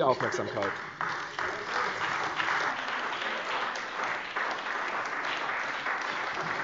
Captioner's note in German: Beifall bei der CDU und dem BÜNDNIS 90/DIE GRÜNEN